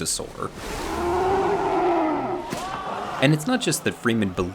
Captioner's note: monster roaring